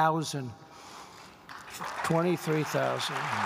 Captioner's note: applause